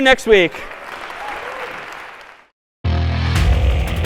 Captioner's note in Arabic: تصفيق